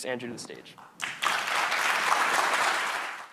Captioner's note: applause